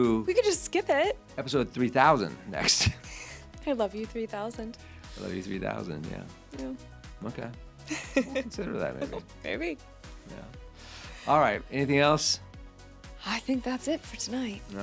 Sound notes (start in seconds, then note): 7.9 laughing